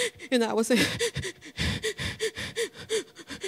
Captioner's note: crying